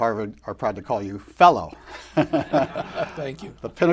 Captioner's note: laughter